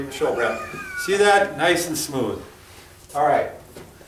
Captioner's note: laughs